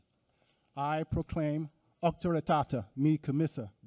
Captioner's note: non-english speech